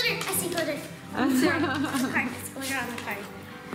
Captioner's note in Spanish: ríe